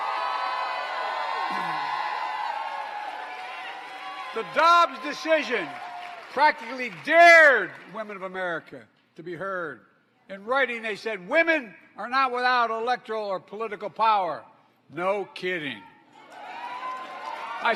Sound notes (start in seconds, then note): 4.2 applause